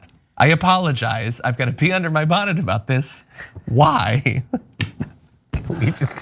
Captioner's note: laugh